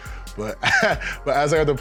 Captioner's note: laughs